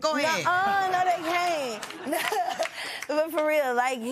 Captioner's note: chuckles